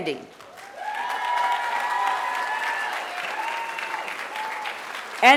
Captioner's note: applause